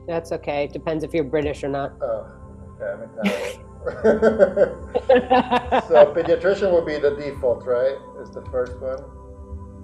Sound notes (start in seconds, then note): 3.8 laughs; 3.8 client laughing